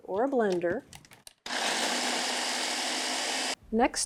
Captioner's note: blender whirs